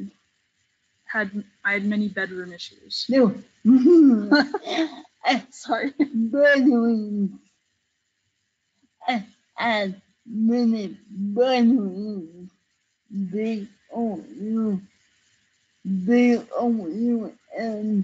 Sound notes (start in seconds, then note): 4.1 participants laugh